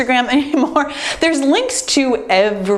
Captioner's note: laughs